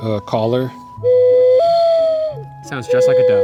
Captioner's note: blows whistle